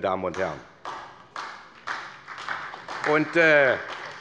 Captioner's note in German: Beifall bei der SPD